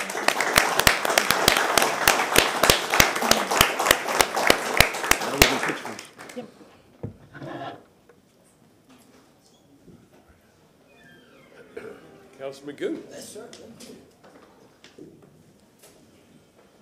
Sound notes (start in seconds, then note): 4.4 applause